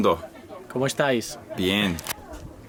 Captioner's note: speaking in foreign language